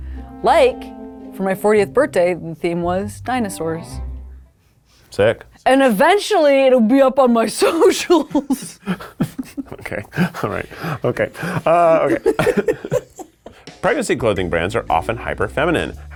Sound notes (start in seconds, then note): 7.8 laughs; 12.0 people laughing